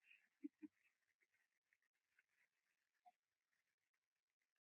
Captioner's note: Sherlock chuckles